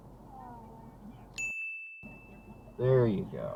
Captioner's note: ding